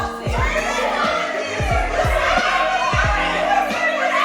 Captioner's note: laughing